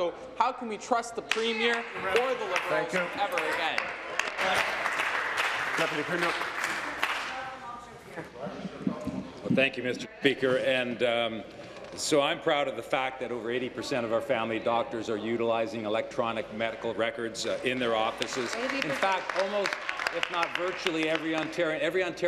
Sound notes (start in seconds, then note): 8.1 applause